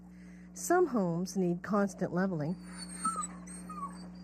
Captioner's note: dog whimpers